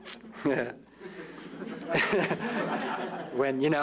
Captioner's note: laughter